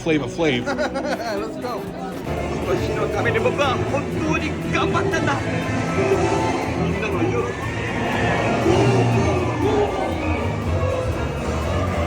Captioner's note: laughing